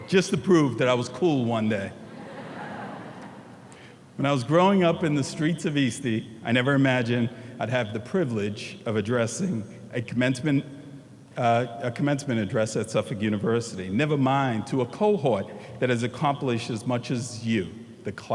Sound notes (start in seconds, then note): 2.0 audience laughing